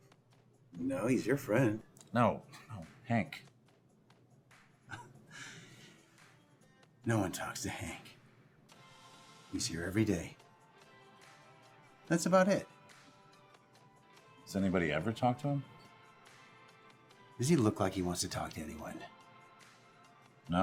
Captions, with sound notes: - No, he's your friend. - No, no, Hank. (Mikey chuckles) - No one talks to Hank. He's here every day. That's about it. - Has anybody ever talked to him? - Does he look like he wants to talk to anyone?